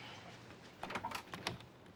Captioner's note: door opens